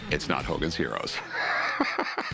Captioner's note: laughs